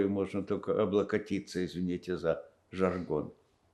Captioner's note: coughing